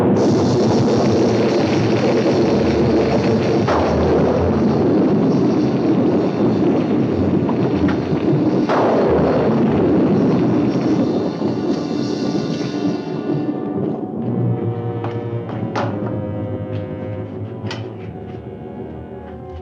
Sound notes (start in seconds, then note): 0.1 fire whooshing; 8.6 thunder crashing continues; 12.0 tense music; 14.3 moves to foreboding music